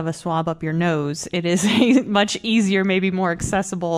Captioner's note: laughter